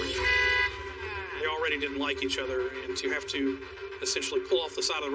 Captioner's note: horn honks